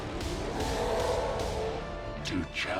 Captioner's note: hulk groaning